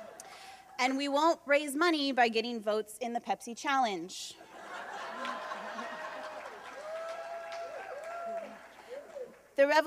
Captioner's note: laughter